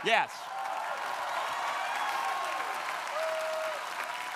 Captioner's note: crowd applauding